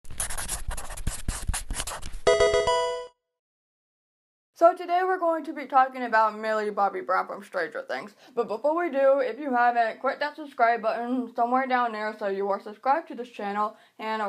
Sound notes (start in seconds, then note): 0.0 pencil writing; 2.2 Pokemon game sound